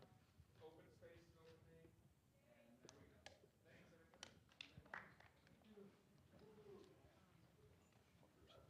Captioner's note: applause